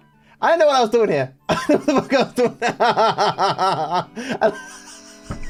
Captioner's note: laughing